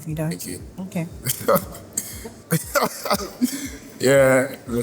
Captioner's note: laughs in awkward